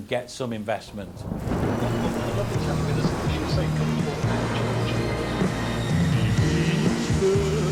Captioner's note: thunder rumbling